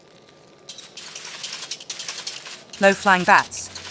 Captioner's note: bats noises ♫